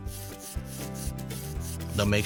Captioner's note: robot whirling